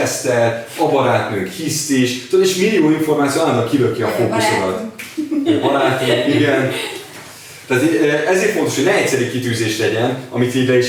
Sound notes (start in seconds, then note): 5.2 laughing